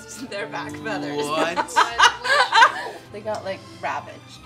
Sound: laughing

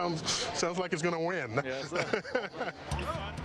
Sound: laughs

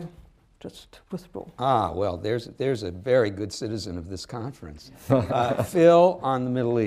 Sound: laughter

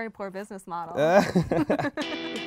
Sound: both laugh; energetic pop music

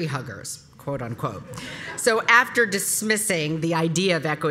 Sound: laugh

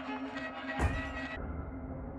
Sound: thud

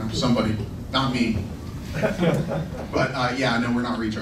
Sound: laughing

